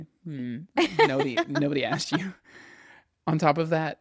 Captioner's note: laughs